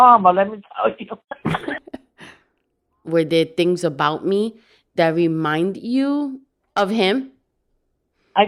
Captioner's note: laugh